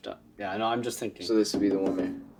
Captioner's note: tapping glass